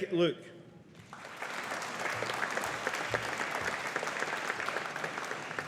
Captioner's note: audience applauding